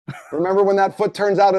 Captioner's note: chuckles